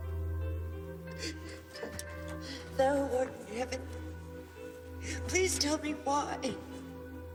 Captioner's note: sobs